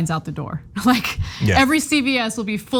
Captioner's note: laugh